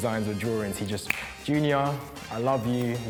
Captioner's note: snaps fingers